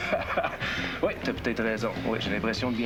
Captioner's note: Rire